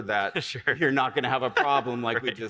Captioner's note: laughs